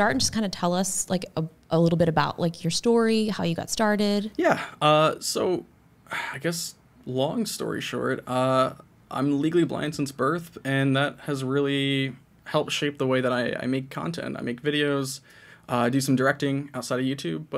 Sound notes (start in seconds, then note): none